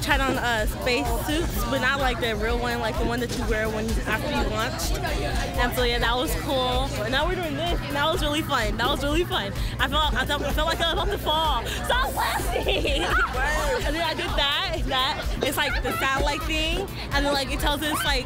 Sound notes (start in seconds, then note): 13.8 laughs